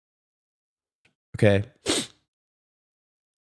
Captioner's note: sniff